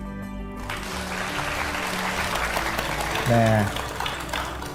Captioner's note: applause